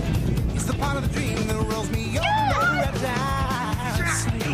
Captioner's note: both cheer